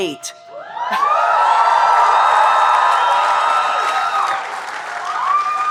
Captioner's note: audience cheering and applauding